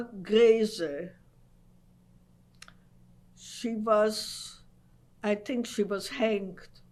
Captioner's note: pauses for 3 seconds